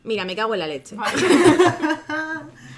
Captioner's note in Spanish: risas